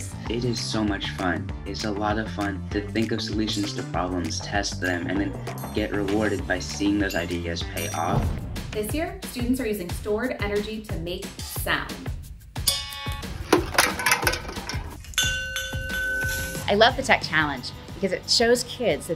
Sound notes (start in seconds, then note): 12.7 jug clanging; 15.0 bell ringing